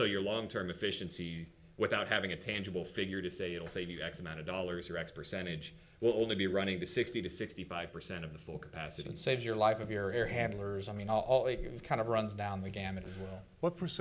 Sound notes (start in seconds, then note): none